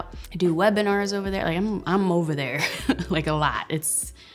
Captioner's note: chuckles